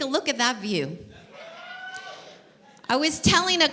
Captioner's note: cheer